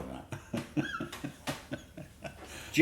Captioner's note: laughter